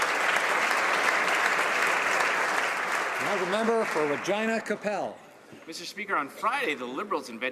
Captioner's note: some Applause